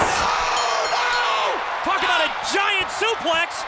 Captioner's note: bell rings